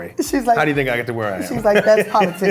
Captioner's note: laughs